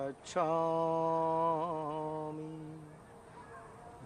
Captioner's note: chanting continues